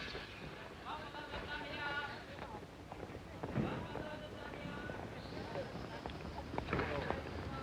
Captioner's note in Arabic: فرامل طحن و صرير; ثرثرة خافتة